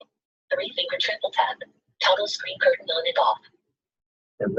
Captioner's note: system voice